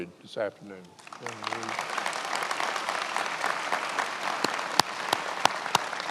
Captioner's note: attendees applauding